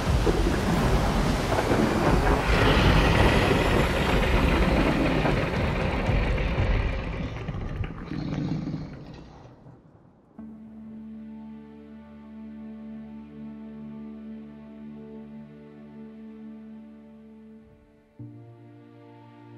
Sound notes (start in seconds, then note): 2.5 growling